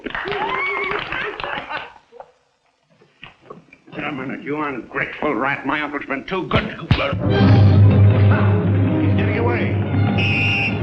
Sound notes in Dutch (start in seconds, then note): 5.5 spannende muziek; 10.0 fluitje blazen